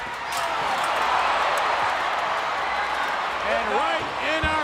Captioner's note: audience cheers